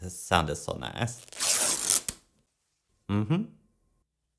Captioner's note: more ripping sounds